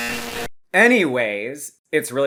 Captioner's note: jackpot noises easing into 𝐄𝐗𝐓𝐑𝐄𝐌𝐄𝐋𝐘 𝐋𝐎𝐔𝐃 𝐈𝐍𝐂𝐎𝐑𝐑𝐄𝐂𝐓 𝐁𝐔𝐙𝐙𝐄𝐑